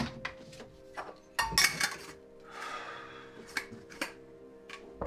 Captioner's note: metallic rattling